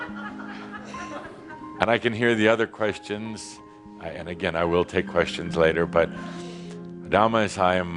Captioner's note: laughter